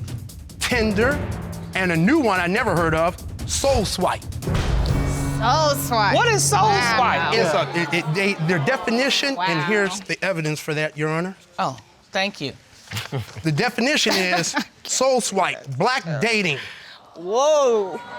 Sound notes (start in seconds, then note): 7.6 stutters; 12.8 chuckles